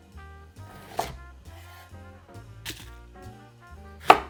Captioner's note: knife cutting